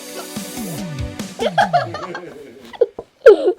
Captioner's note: laughing; dad also laughing